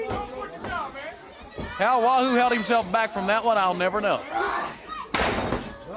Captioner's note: crowd chatter